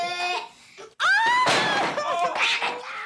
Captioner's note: blocks tumbling